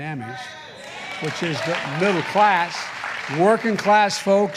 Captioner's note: applause